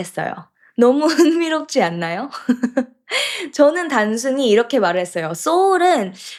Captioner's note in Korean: 웃음